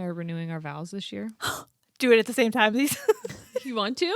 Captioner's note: laughs